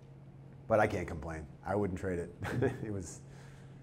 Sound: chuckles

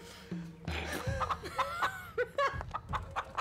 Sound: laughing

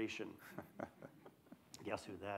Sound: laughs

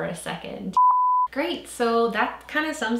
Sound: beep

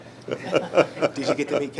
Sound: laughing

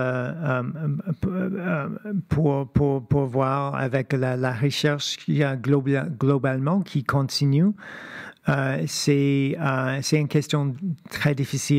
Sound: speaking French

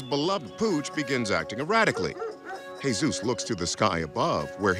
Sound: dog barks

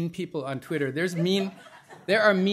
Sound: laughter

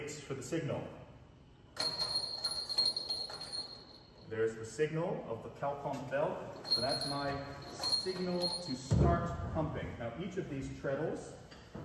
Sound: bell rings

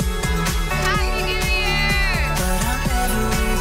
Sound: crowd

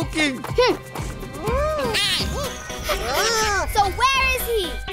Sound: chirping

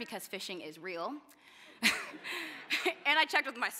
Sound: laughter

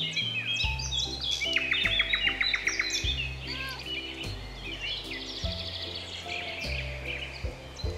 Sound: Pam meows

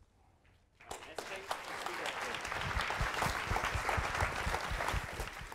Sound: audience applauding

